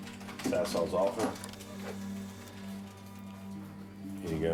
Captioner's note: printer humming